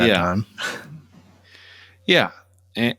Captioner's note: laughter